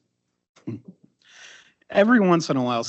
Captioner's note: person chuckling